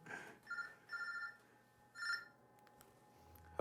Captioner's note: phone ringing